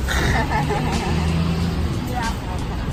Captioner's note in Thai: ขำแห้ง